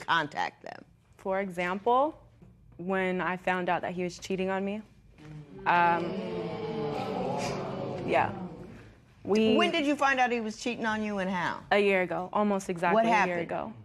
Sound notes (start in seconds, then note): 5.3 spectators murmur